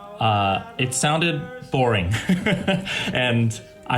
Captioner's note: laughs